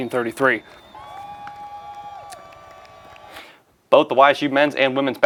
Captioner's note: cheering